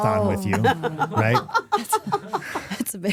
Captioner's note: Stephanie laughing